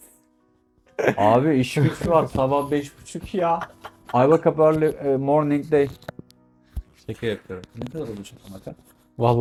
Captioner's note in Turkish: kahkaha